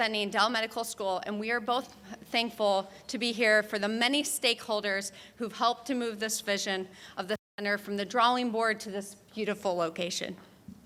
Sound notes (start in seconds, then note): none